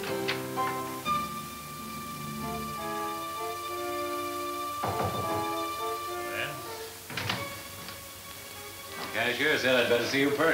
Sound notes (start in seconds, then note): 0.9 pensive orchestra music; 4.8 knocking on door